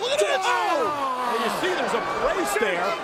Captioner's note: Undertaker screams